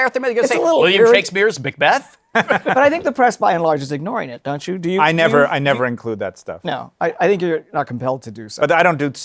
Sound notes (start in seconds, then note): 2.3 laughter